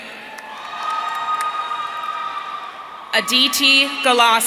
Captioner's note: audience cheering